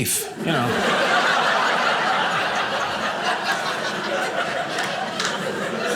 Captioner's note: audience laughing